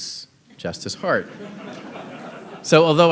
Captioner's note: audience laughing